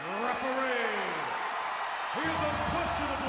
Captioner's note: audience cheers